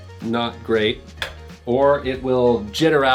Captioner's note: clicking